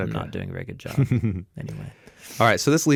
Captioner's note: chuckles